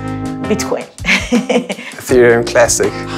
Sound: laughing

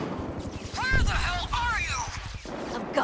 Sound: voice on radio

